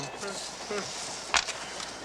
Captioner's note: train whistles